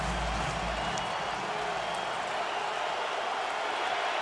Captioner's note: cheering